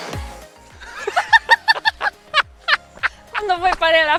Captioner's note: both laughing